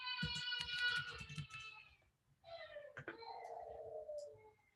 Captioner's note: baby crying